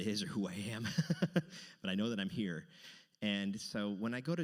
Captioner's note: laughs